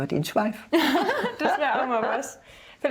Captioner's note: laughs